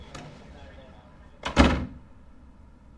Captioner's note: door closes